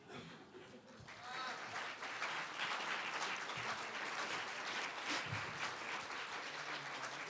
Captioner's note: applause